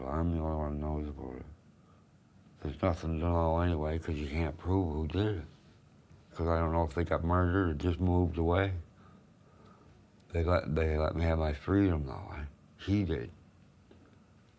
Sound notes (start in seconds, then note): none